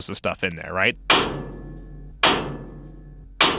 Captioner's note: metal clanging